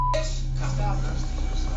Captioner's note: chatter